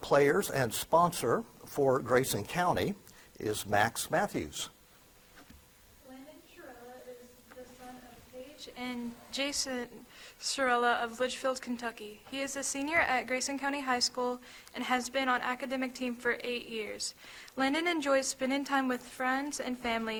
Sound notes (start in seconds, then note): none